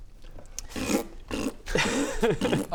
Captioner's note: pffpt